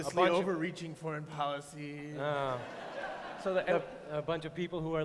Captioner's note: laughter